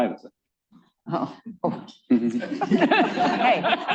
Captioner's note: laughter